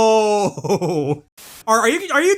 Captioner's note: static